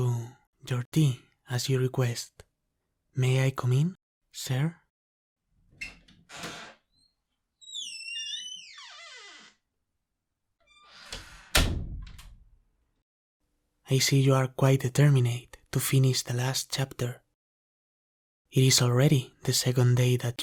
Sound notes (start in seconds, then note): 5.6 sound of opening and closing the door slowly